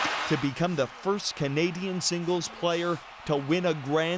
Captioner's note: cheers and Applause